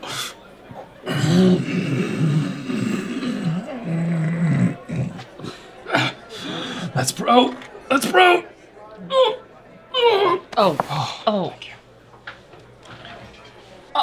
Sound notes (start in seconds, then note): 1.0 throat clearing